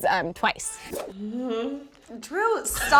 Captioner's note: moans